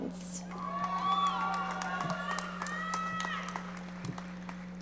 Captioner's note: audience applauding